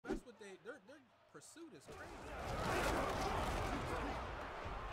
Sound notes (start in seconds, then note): 1.8 cheering